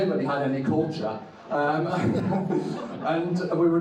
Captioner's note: audience laughs